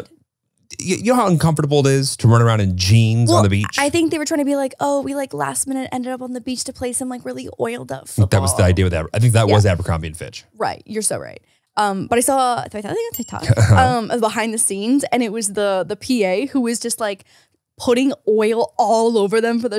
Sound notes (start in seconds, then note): 13.0 bell rings